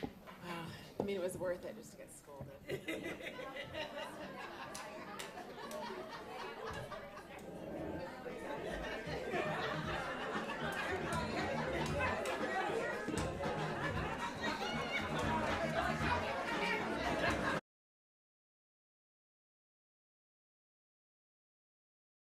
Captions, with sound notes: Oh, I mean, it was worth it just to get scolded. [laughs] [background conversations] [laughter]